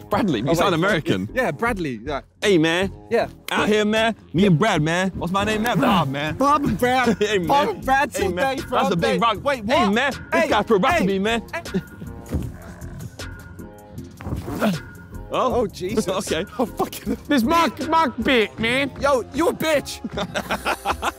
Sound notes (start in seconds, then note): 7.6 indistinct chattering; 11.7 air swooshing